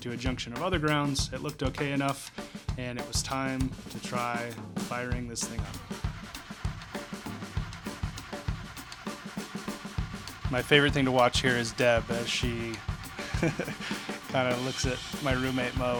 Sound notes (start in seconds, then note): 12.6 laughs